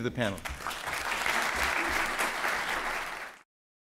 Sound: applause

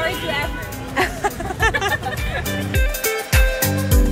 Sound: group laughing; cheerful music

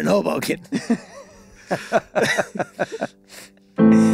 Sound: all laughing

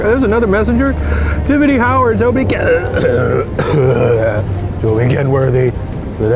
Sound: burping

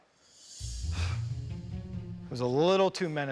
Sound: sighs

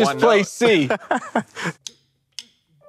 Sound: laughs

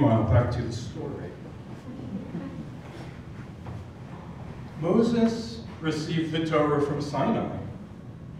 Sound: laugh

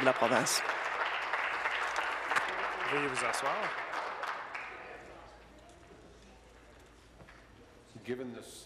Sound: applause

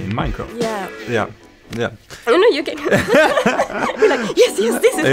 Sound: laughter

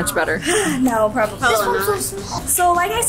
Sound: sighs

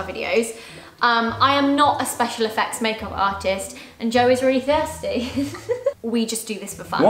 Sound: giggles

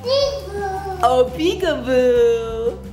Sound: baby cooing

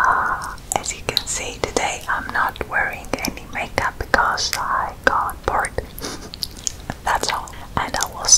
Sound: laugh

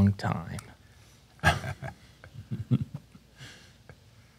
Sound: chuckles

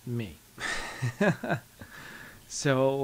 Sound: laughs

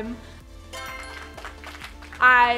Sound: applauding

